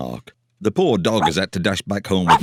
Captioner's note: barks